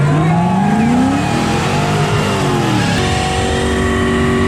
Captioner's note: car engine revving